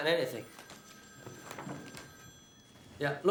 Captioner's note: telephone rings